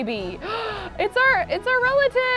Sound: gasps

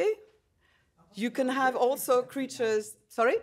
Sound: faintly speaking

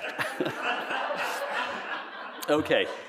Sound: laughter

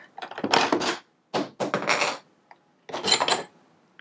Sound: clanking

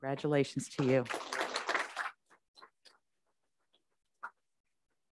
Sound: group applauds

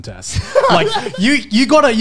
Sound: laughs

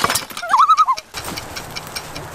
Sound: loon call

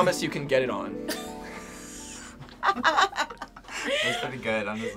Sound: group laughs

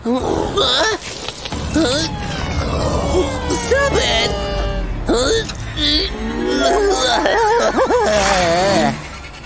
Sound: making bizarre sounds

